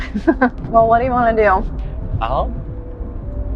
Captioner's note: laughs